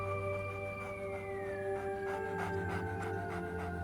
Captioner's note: coyote panting